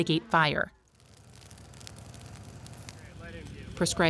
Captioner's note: grass burning